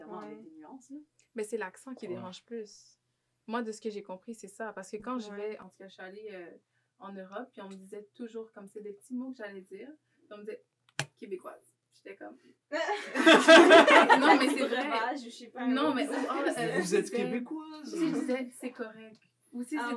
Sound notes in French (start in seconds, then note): 12.8 rires